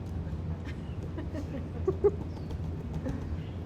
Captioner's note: laughing